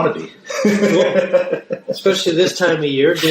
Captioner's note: laughs